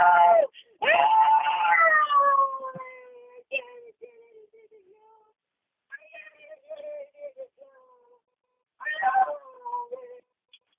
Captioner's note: screaming